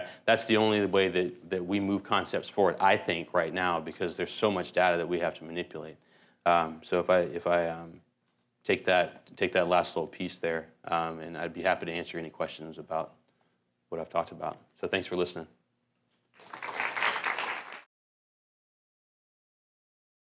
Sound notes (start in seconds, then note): 16.3 applause